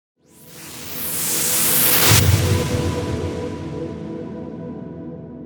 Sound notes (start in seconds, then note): 0.8 whooshing